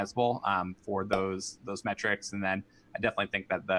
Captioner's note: pop up pops